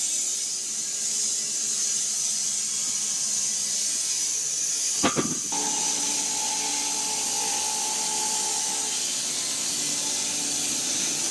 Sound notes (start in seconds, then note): 1.9 woodcutting machine hissing continues; 5.0 log thudding